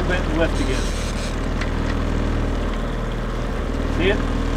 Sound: boat motor purring

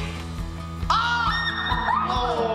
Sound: incoherent screams

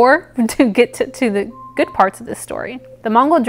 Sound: alarm goes off

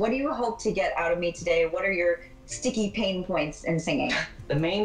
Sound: chuckles

